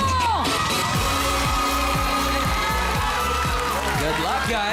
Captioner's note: cheering